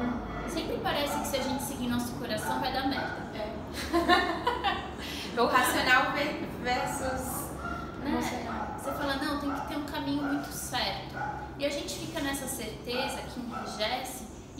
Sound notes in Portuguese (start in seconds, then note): 3.7 risos